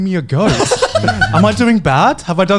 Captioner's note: laughing